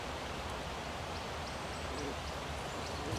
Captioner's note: birds singing